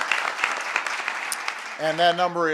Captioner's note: applause